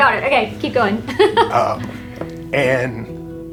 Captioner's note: laughs